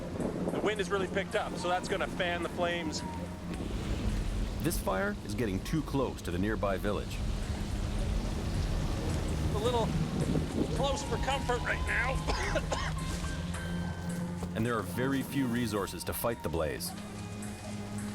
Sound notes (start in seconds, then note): 12.2 coughs